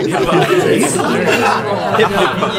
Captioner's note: laughs